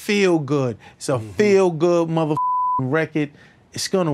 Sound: beep

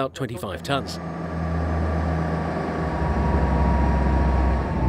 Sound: engine roars

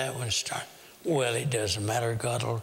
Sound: whisper

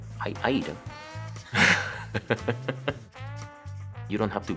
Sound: laughing

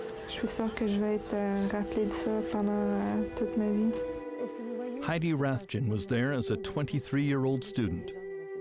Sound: speaking French

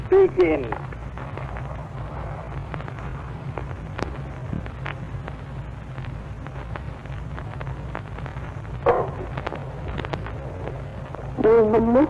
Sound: static

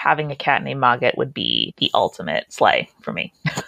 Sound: laughs

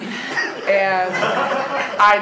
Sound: laughing

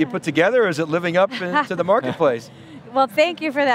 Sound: all laughing

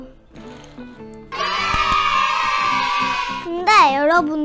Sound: clapping like a seal

